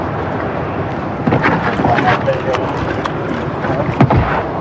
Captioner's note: shuffffliling